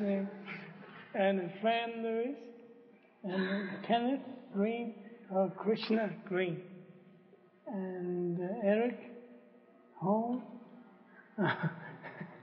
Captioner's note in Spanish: risas